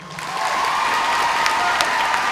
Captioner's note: audience applauding